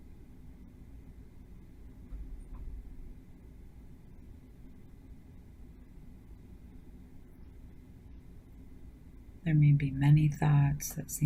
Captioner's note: silence